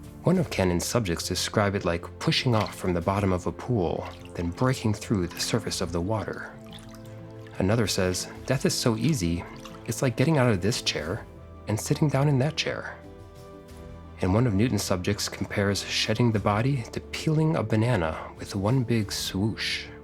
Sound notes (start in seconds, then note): 6.7 water splashing